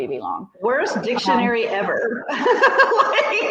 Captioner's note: laughs